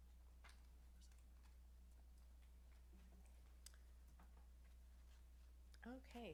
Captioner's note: whispering